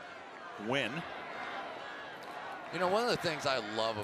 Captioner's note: go, pack, go" chant